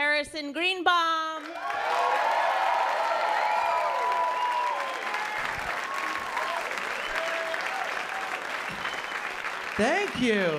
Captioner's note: applause